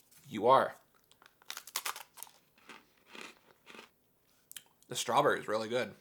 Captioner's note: ice cream crunching